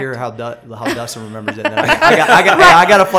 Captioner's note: laughter